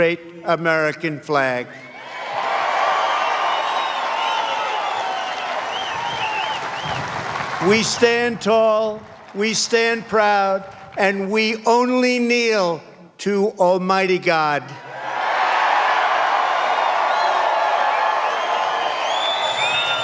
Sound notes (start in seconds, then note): 5.9 cheers and applause; 19.4 cheers and applause